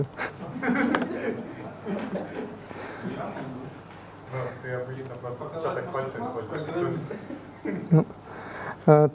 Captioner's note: discussion in the audience